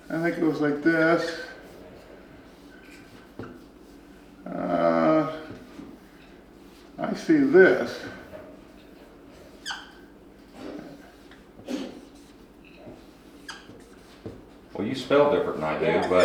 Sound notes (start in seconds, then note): 9.6 squeaking